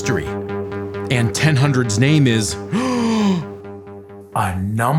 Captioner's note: gasp